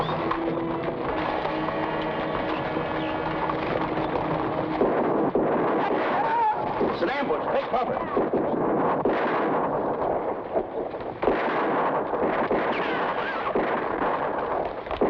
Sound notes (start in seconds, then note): 0.2 horse hooves patter; 4.7 gunshots blast; 6.1 soldier groans; 8.1 gunshots blast